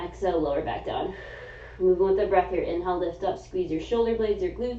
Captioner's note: exhaling